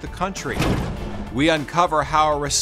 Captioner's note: tires clinking